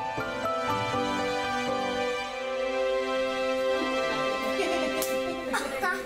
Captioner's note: bright music; laughs